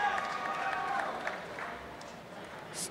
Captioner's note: applause and cheering